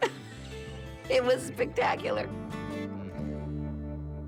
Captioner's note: laughs